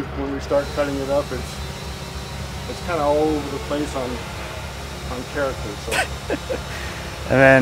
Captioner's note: laughs